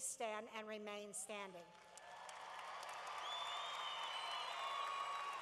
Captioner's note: cheering